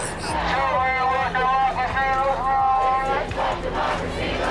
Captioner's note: crowd chanting